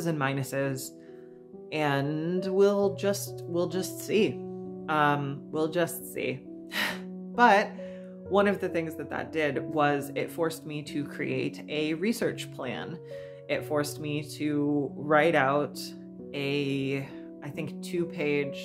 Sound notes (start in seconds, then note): 7.8 exhales